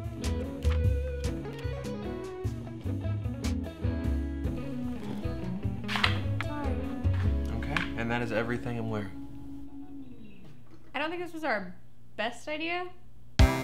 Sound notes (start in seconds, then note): 0.6 cards flipping